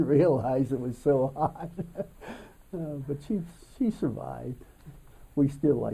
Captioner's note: laughs